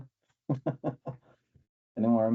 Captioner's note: laughs